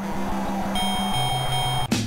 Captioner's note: crowd cheering; punchy music plays; bell dings